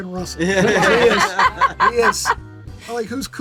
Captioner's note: group laughs